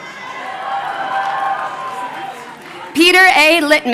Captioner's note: crowd cheering